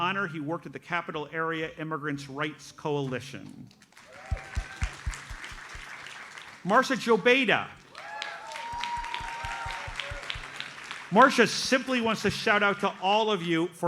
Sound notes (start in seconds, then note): 3.9 audience applauds; 7.8 audience cheers and applauds